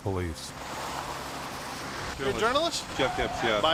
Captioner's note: araba lastikleri çatırdayarak